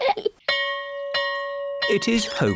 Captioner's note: all giggle; bell rings